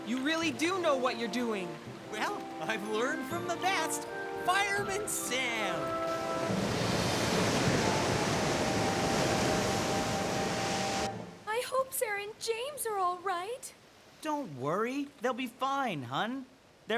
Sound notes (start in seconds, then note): 6.0 waves Crashing; 6.0 wind Howling